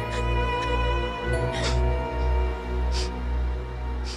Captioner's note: Aditi crying, sniffling